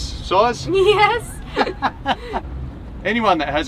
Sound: both laugh

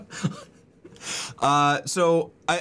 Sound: laughter

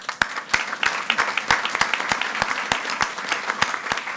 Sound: audience applauding

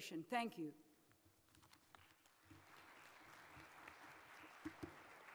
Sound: audience applauds

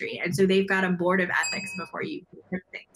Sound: bell dings

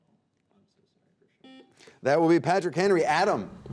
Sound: buzzer beeping

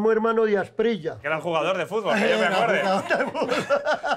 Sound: laughs

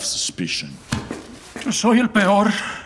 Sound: footsteps

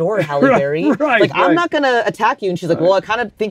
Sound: laughs

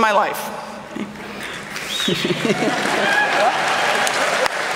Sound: applause

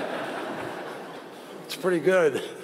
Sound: laughter

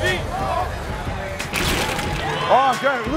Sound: glass rattling; exclaims

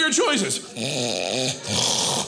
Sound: loudly mimics snoring; softly mimics snoring

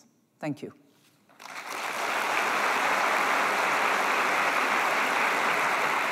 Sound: applause

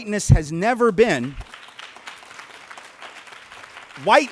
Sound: light clapping

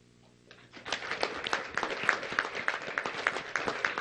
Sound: clapping

